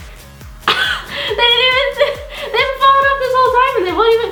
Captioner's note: laughs